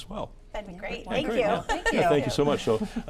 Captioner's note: chuckles